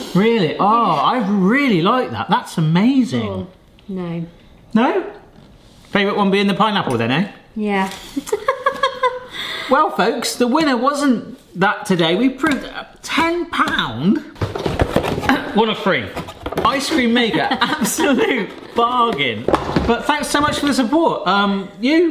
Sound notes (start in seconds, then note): 8.6 laughs; 15.1 coughs